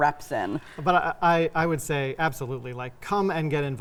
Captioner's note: chuckling